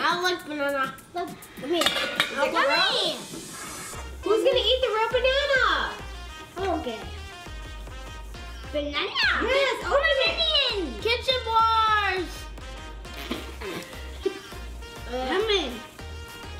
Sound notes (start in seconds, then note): 13.0 spits